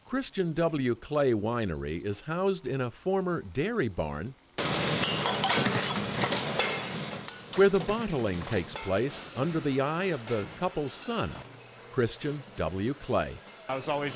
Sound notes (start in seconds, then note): 4.5 machinery clanging